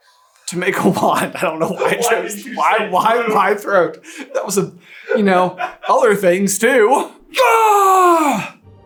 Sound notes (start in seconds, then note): 2.2 also cracking up; 5.9 laughing in background